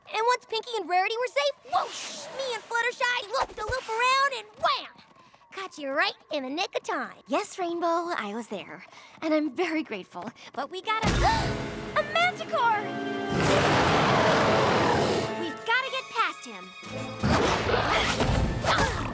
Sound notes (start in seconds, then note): 11.7 gasps; 13.2 growls